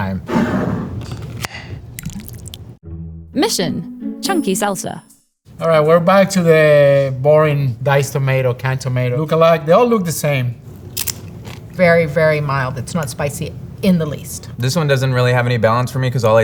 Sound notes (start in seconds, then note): 0.3 jar sliding; 0.3 lid opening; 1.9 salsa pouring; 10.7 mouth crunching